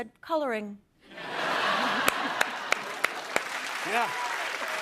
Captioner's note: laughter and applause